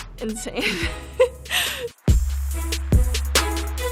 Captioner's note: laughs; dramatic music